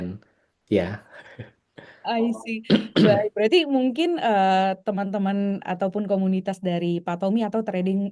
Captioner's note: berdehem